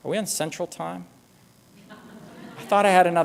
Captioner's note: laughter